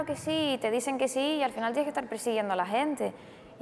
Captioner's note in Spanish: none